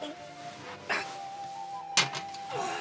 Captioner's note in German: Stöhnen